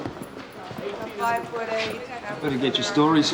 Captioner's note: indistinct chatter